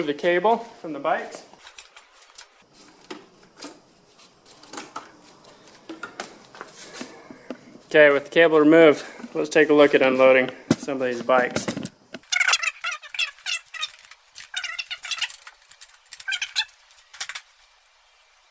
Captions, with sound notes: the cable from the bikes. With the cable removed, let's take a look at unloading some of these bikes. (tape screeching)